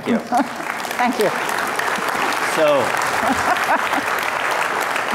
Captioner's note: audience applauds